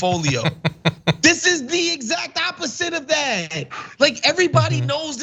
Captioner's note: laugh